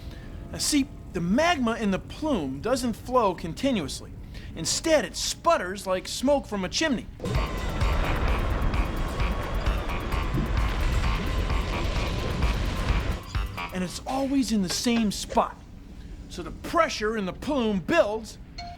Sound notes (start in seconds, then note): 7.2 rumbling